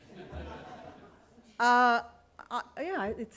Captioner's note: laughter